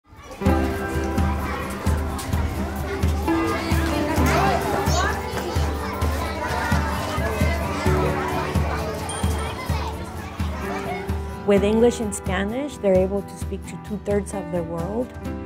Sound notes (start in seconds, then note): 0.0 bright music; 0.0 children talking